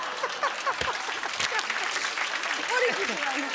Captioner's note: laughter and applause